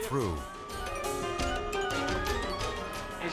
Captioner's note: siren blaring